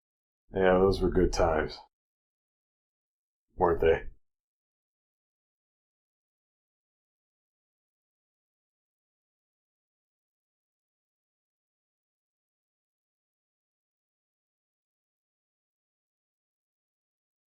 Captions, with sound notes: Yeah, those were good times. Weren't they? [long intentional silence]